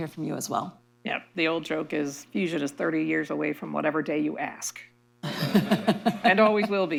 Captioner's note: laughter